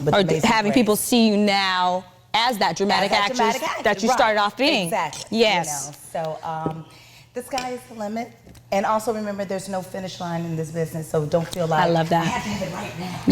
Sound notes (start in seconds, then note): none